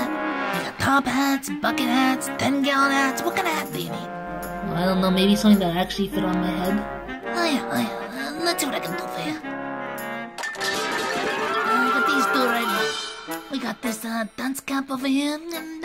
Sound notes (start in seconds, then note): 10.4 crashing